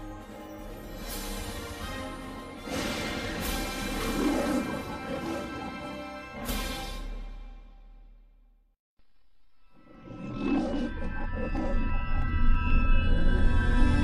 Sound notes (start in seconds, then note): 2.7 fanfare finishing as Leo the Lion roars; 10.0 Leo the Lion roaring